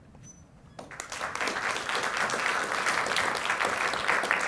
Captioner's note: applause